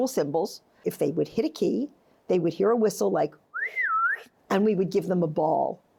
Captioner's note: whistles